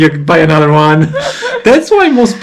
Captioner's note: laugh